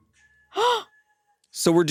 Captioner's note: gasps